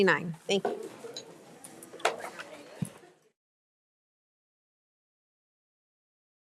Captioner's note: trustees and attendees speaking faintly